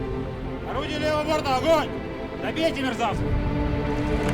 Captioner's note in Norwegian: snakker russisk